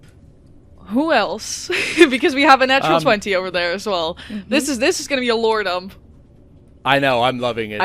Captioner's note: laughs